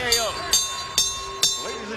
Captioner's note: bell rings